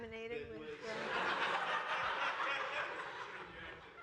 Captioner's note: laughter